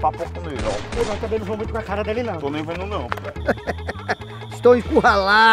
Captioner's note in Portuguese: risada do policial